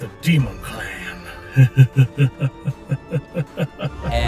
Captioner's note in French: Rire diabolique